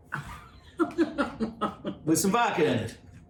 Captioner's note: laughs